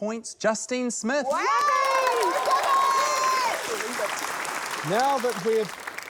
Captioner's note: cheering